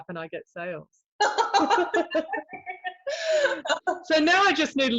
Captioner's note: both laugh